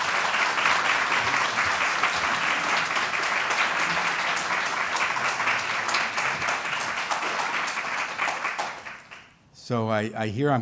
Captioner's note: applause